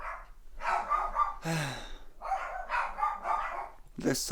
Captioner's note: dogs barking